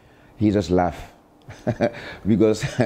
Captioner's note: chuckles